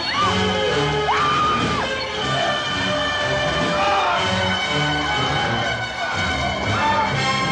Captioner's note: people screaming in all directions